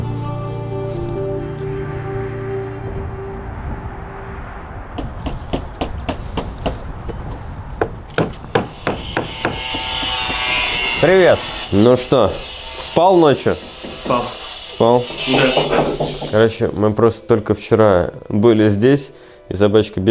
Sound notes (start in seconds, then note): 4.7 knocking sound